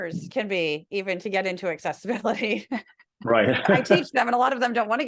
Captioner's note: laugh